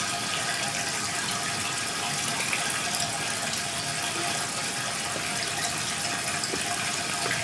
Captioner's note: water trickling continues